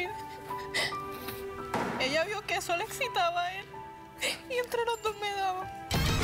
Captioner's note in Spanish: sollozos